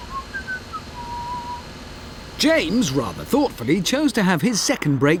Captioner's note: james whistling